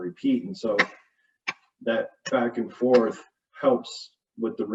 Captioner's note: clapping